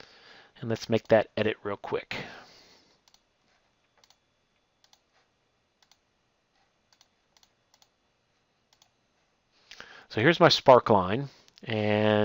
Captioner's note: clicking